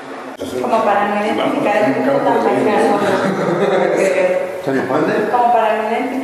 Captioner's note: laughter